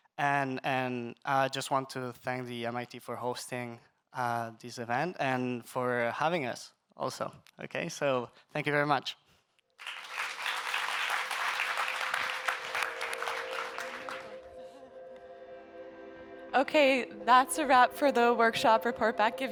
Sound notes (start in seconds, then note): 9.8 audience members applauding; 12.2 gentle electronic music